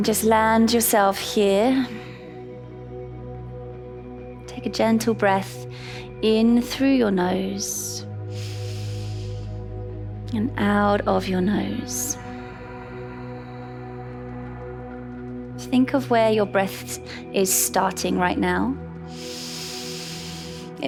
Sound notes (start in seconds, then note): 2.3 calm music; 8.3 inhales; 12.8 exhales; 13.7 calm music; 19.1 inhales